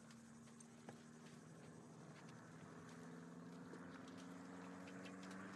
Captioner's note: plane flying overhead